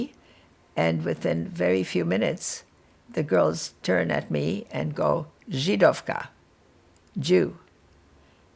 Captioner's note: slovak